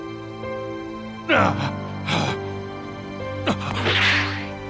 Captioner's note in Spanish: Tartamudeo; Gruñidos